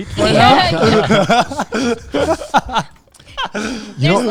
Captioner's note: all laughing